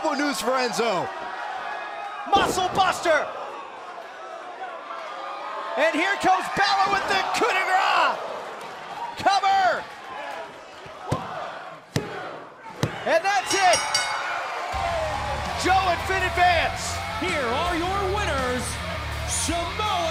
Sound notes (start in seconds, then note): 10.4 crowd chatter; 13.4 bell ringing